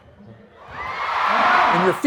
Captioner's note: audience cheering